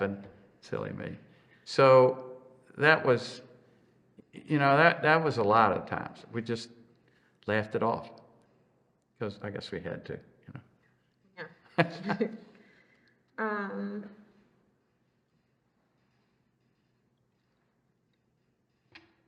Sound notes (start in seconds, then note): 11.8 laughs